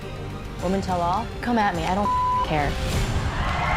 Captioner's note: beep